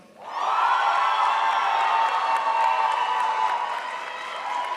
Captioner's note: crowd applauds